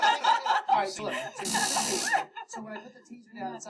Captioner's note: taser Fires